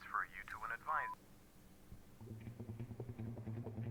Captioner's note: phone beeping; suspenseful music